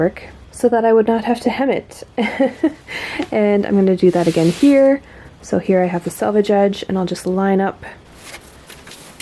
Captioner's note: laughs